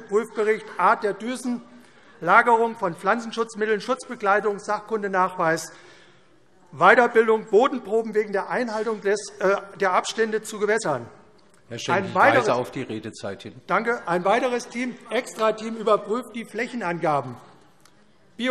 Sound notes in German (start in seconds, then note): none